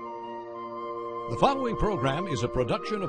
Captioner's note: voiceover